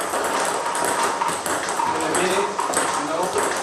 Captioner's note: ball ping pong hitting